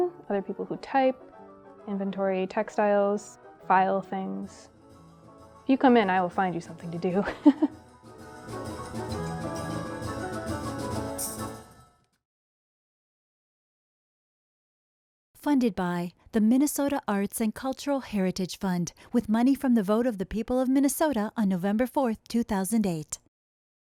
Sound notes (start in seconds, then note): 7.2 laughs; 8.6 upbeat music